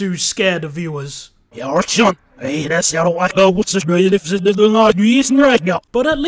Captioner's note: reverse speech